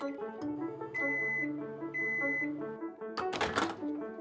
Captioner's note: upbeat music; beeping; clanking